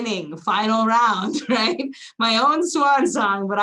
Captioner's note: giggles